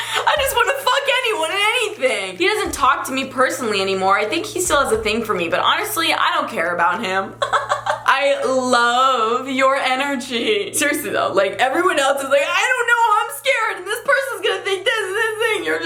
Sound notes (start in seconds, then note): 0.0 giggles; 7.3 laughs